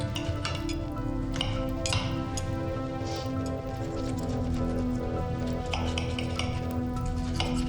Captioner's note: tense music continues; cutlery clinking